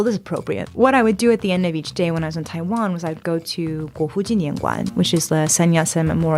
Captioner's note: Mandarin 00:23:43